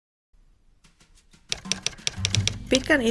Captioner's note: typewriter tapping